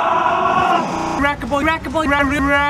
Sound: glitchy crap

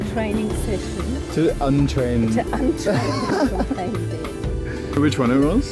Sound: laughs

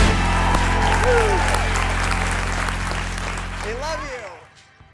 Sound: audience applauds

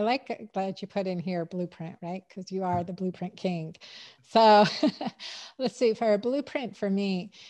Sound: chuckles

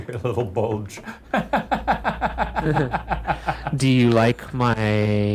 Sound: laughs

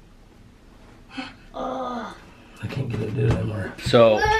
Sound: groaning

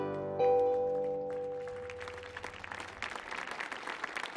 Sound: audience clapping

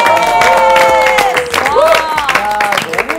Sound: applause

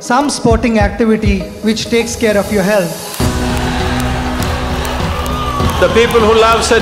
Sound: cheers and Applause

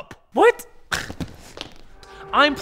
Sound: scoffs

